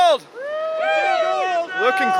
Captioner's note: crew cheering